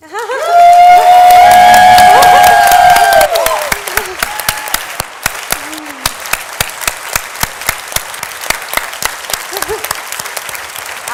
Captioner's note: cheers and Applause